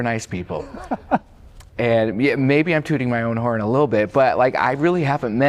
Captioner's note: laughter